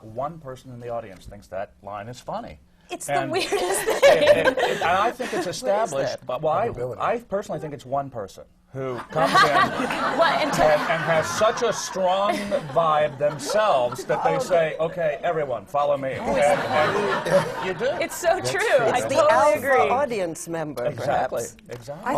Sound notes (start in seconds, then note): 3.6 laughter from the panel; 8.9 laughter